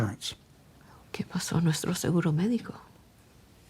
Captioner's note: speaking spanish